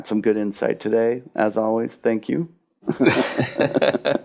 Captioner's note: laughs